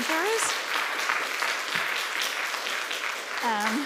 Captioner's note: applause